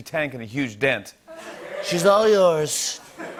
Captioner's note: As Trump; laughter